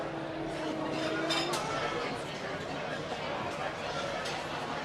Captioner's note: people chattering